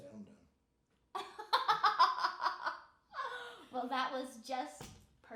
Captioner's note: laughing